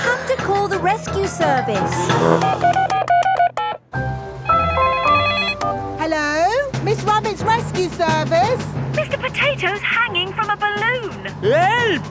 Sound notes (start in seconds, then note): 2.1 beeping; 4.7 phone ringing